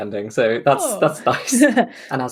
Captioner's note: laughs